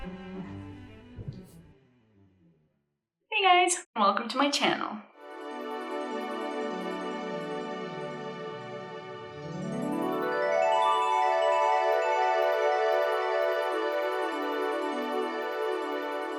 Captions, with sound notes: Hey, guys! Welcome to my channel. [Fairy sparkle sounds play]